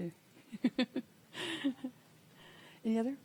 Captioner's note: laughing